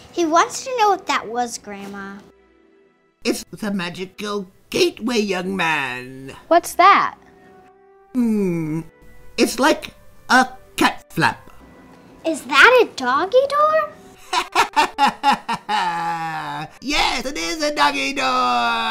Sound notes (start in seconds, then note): 14.2 Sylke laughs